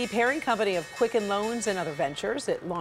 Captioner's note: bell ringing